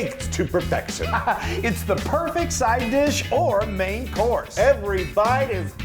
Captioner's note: laugh